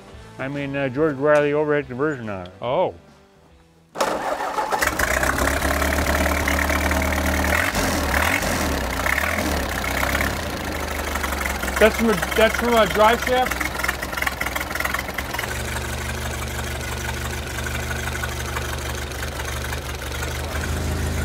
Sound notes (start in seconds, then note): 3.9 engine turns over and starts; 7.3 engine sputtering idly; 17.0 engine idling then is shut off